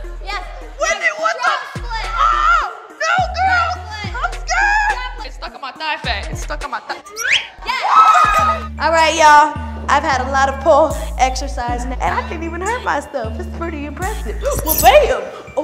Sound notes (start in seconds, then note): 7.6 cheering